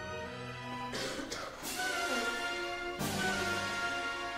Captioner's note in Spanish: enriqueta tose